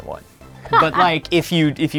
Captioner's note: laughing